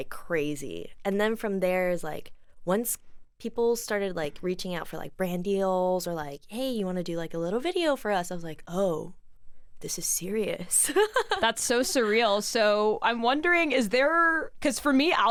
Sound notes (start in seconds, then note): 10.9 laughs